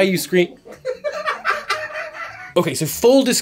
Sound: laughter

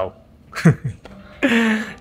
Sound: chuckles

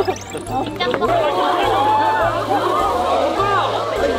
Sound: the noisy and bustling sounds

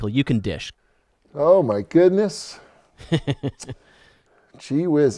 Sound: laughs

